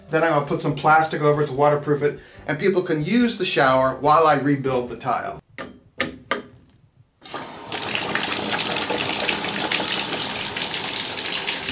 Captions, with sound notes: then I will put some plastic over it to water proof it, and people can use the shower while I rebuild the tile. (water running)